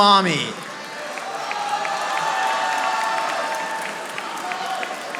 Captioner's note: audience applauding